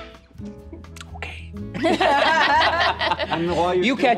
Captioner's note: players laughing